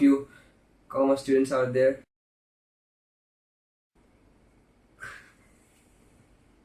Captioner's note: silently